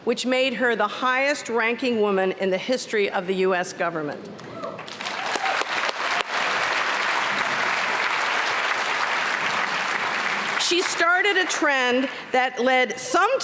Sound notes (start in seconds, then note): 4.8 applause